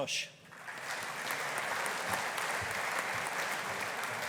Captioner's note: audience applauding